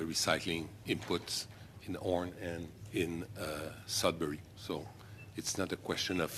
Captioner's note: speaking French